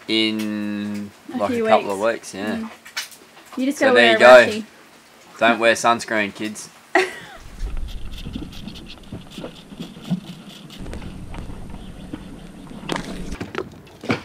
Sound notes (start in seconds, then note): 6.9 laughs; 7.3 water lapping